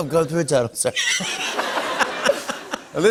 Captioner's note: laughter